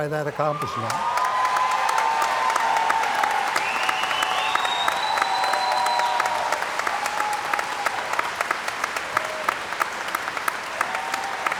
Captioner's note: cheering & Applause